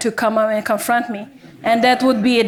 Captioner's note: audience members laughing